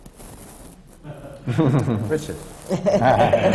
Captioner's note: laughter